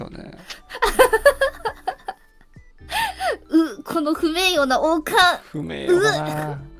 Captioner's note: laughs